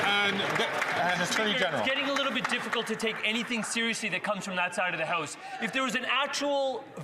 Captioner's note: some Applause